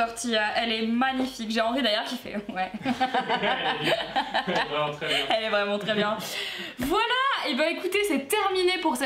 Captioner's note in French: rires